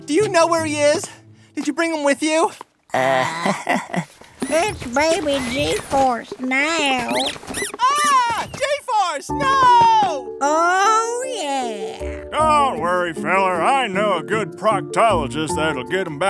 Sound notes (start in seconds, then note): 4.2 soundbite of squeaking; 4.2 squeaking; 7.2 soundbite of squeaking; 10.8 soundbite of squeaking